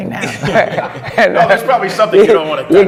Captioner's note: laughter